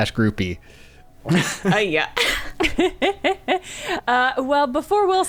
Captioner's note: laughing